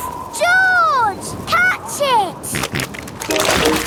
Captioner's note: snorting